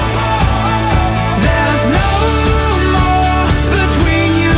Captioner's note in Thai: ปรบมือ